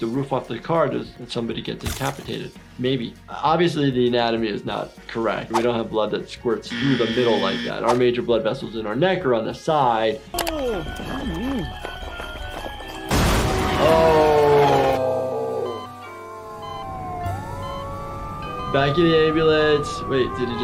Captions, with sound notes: the car when someone gets decapitated. Maybe, obviously the anatomy is not correct. We don't have blood that squirts (buzzer sounding) - through the middle like that. Our major vessels around the neck or on the side. (Lumpy humming) (cheerful music) (train wrecking car) Oh! (heart monitor beeping) (ambulance sirens) Back in the ambulance, wait did he just